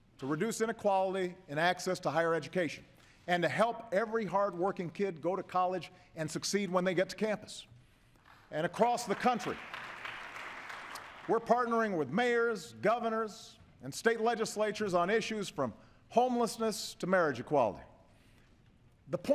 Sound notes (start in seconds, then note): 8.7 applause